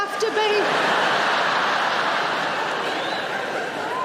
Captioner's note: audience laughing